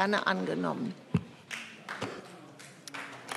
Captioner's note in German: Vereinzelter Beifall BÜNDNIS 90/DIE GRÜNEN